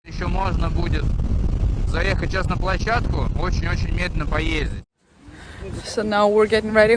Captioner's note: in Russian